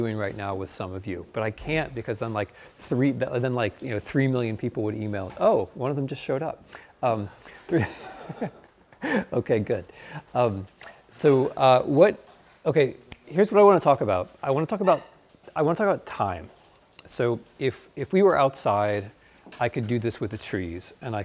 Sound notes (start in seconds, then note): 7.4 laughing; 8.0 audience laughing